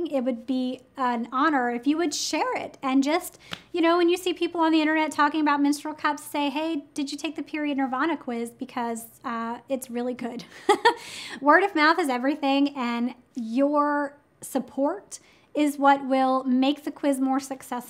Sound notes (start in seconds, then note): 10.4 chuckles